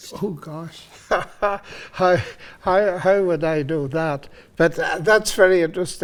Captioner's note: laughing